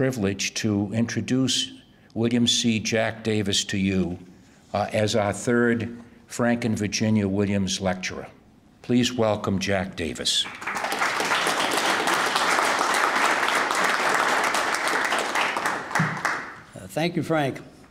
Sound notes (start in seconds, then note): 10.4 applauding